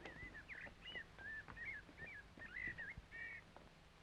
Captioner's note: birds chirping